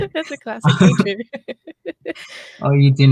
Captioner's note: laughs